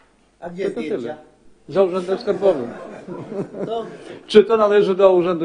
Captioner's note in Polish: śmiech